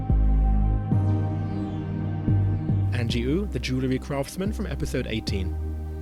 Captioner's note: voiceover